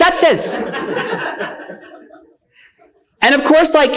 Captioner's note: attendees laughing